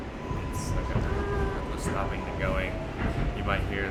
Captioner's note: mimics subway brakes